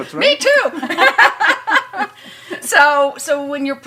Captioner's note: laughs